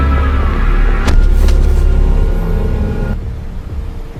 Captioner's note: body thumps